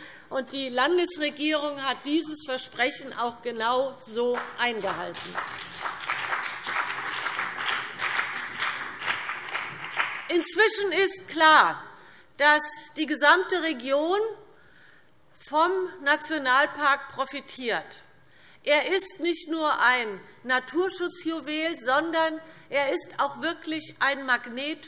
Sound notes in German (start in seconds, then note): 4.7 Beifall CDU und BÜNDNIS 90/DIE GRÜNEN